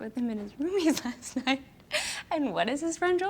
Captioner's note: laughs